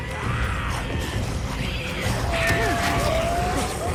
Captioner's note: zombies vocalizing